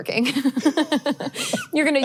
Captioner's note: both laughing